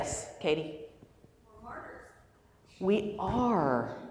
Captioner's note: voiceover